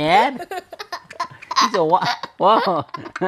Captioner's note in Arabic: يضحك